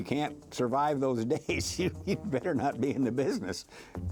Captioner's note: chuckling